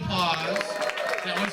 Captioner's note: applause and cheers